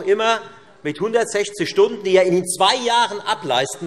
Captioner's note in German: none